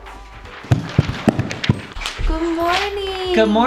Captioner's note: footsteps